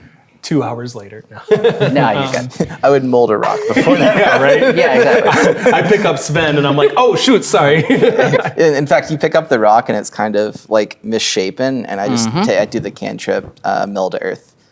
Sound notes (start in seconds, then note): 1.4 laughs; 3.4 players laughing